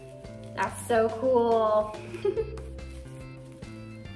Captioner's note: laughter